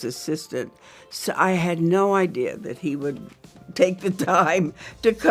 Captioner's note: laughs